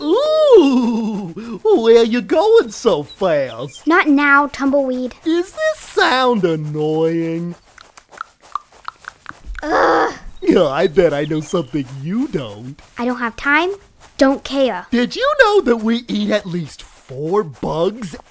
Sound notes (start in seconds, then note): 7.6 clicking tongue